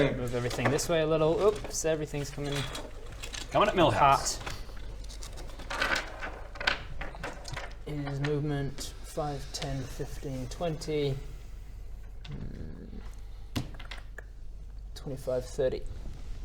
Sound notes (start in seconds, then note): 5.7 reshuffling noises; 13.5 thinking noises